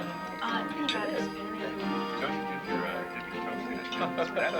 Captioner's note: chattering